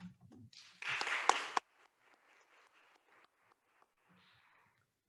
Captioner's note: attendees applauding